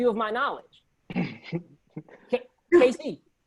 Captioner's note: laughs